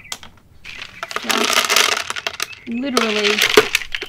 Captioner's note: loofa bangs, seeds rattle